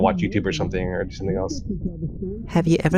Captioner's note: muffled TV sounds